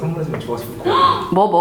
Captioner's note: gasps